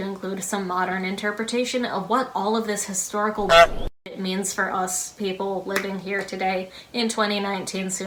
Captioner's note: honk